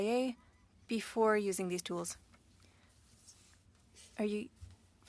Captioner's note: speaking French